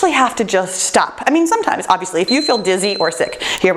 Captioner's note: timer beeps